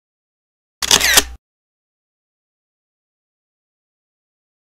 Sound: camera shutters

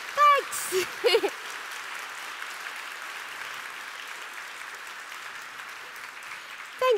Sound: applause

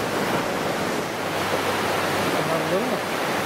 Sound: waves crashing

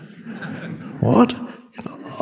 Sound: audience laughing

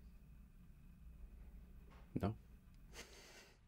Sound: laughs

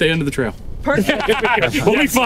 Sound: all laugh

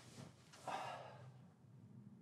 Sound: sighs

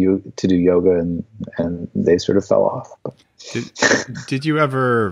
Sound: laughs

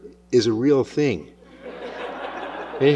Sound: laughter

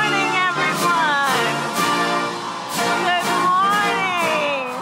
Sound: applause

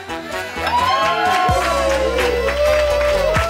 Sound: crowd cheering

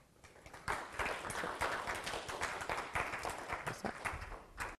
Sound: applause

